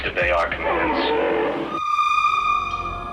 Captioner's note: Entity groans